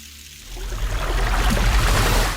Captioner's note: blood splashes